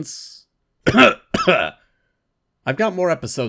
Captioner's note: cough, cough